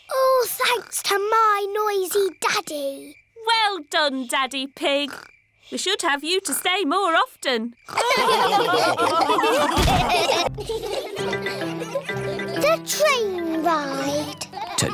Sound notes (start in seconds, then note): 7.9 all laughing; 10.5 laughter